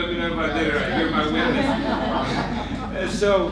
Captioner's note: laughter